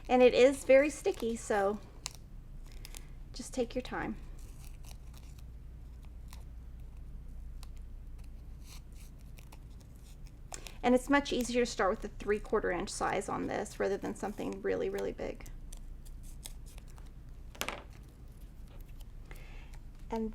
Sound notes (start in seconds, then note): 4.5 scissors snipping; 15.6 scissors snipping